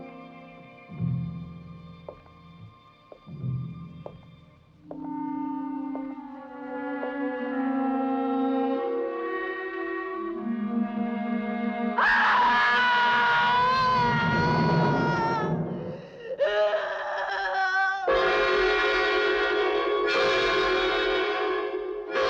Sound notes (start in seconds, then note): 12.0 woman screaming; 18.0 tense suspenseful music